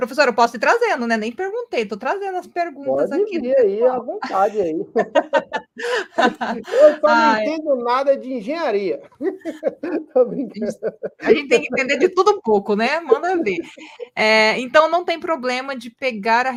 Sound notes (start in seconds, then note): 9.0 laughs